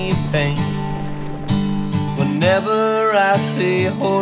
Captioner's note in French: hennissements